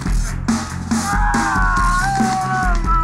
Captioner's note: groans